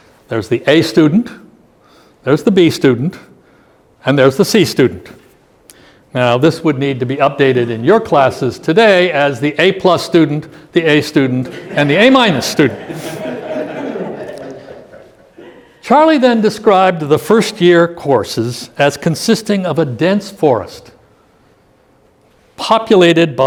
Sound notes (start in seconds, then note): 11.4 laughter